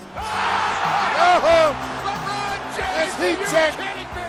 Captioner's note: crowd cheering